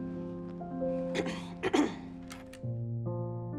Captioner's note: clears throat